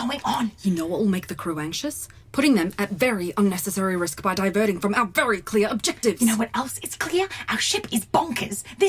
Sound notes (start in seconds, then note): 0.4 whispering; 6.4 louder whispers